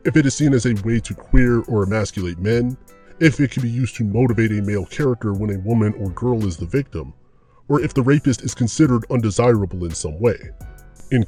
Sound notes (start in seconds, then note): none